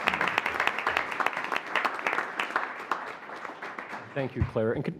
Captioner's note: applause